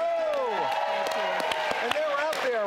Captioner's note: audience applauding